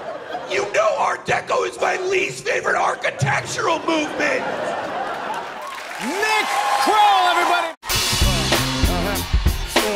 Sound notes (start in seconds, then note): 3.6 laughter